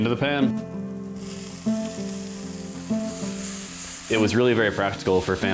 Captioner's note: sizzling